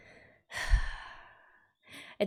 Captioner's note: sighs